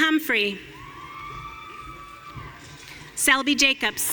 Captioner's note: audience cheering